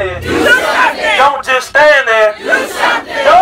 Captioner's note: crowd repeats the speaker